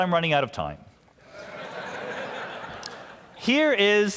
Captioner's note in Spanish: Risas